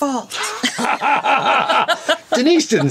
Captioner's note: all laughing